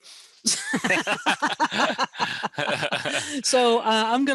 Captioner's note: laughing